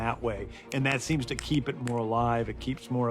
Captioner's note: snapping